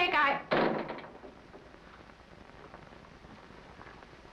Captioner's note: door thuds